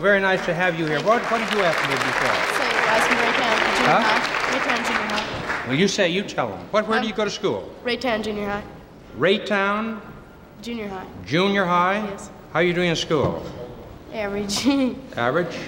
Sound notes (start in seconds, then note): 2.7 crowd applauding